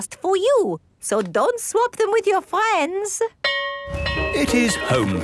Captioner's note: bell ringing